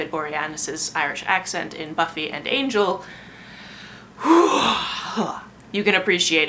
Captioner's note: heavy sigh